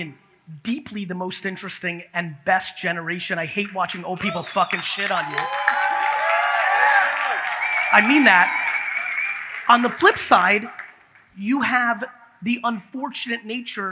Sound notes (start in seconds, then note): 4.0 audience cheers